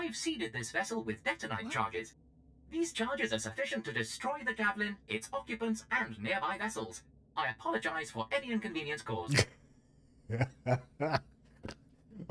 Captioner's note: laughs